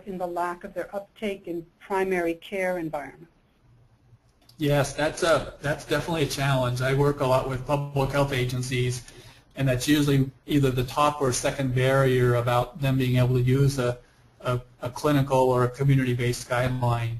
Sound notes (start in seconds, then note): 3.9 voiceover